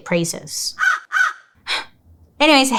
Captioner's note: cawing